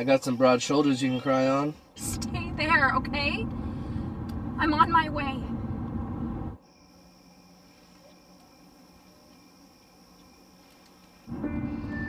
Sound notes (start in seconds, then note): 6.5 crickets chirping; 11.3 piano music playing